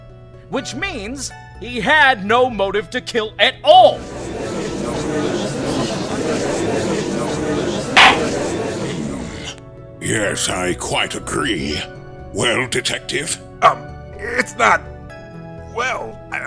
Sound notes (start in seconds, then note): 4.7 gallery chattering; 8.0 gavel slams!